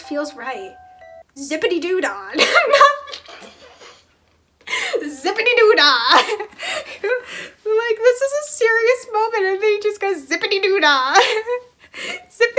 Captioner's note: wheeze